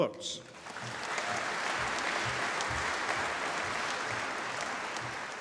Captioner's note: applause